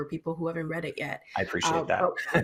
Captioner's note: chuckling